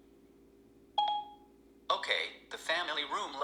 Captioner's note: tone beep